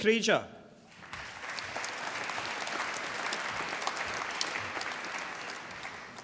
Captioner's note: applause